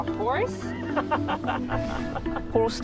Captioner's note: laughs